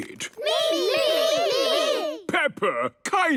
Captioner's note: calling out in turn